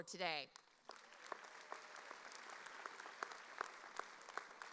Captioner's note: audience applauding